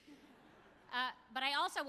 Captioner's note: audience chuckles